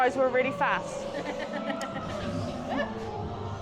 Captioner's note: laughs